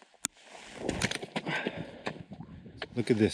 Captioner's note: heavy breathing